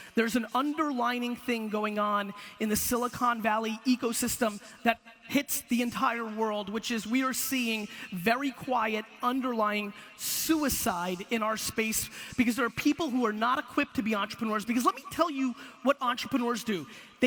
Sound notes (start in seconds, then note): none